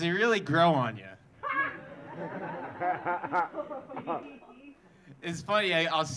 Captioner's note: audience laughing